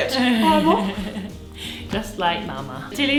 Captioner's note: giggles